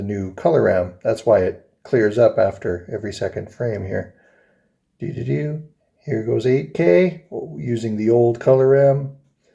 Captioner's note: happy noise